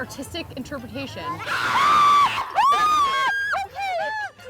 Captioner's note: screams